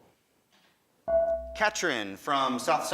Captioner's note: buzzer dings